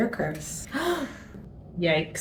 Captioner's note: gasps